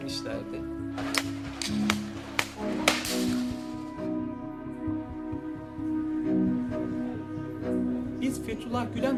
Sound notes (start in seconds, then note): 1.0 gunfire; 3.4 dramatic music